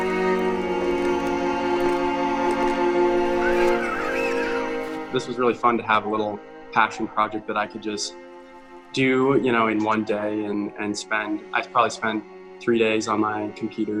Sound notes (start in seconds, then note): 3.4 child laughing